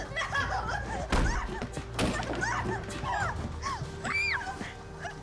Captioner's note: screaming